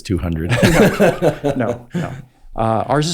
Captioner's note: Andrew laughs